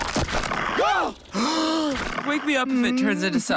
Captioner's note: gasping